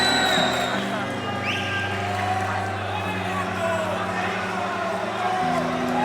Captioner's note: crowd cheering